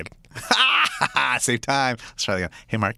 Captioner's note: laughs